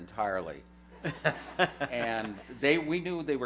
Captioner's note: laughter